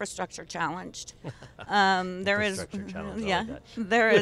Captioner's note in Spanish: risas